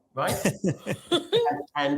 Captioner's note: laughing